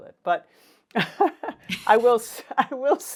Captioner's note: laughs